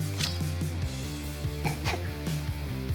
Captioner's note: chuckling